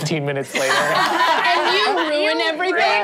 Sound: laughing

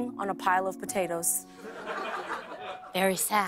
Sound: light laughter

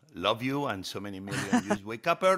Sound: Hoda laughs

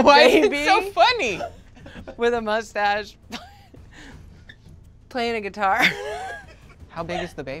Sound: laughs

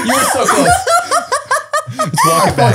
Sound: they laugh

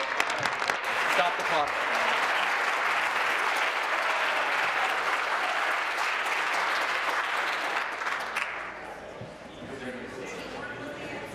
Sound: applause

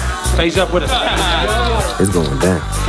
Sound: group laughing

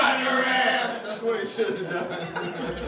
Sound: laughter

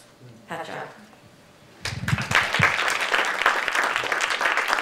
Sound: audience applauding

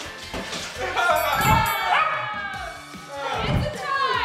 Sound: excited yelling

